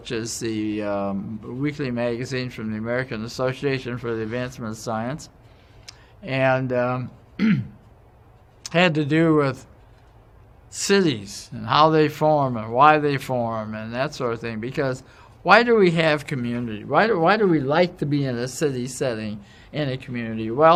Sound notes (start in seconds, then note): 7.3 cough